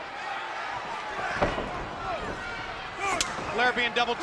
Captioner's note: Stunning Steve stomps